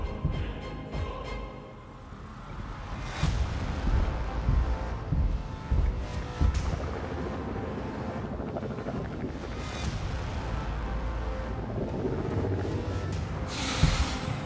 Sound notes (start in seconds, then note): 0.2 intense music; 7.2 Demogorgon gurgling; 7.2 intense music